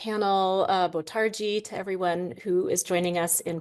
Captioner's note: speaks Portuguese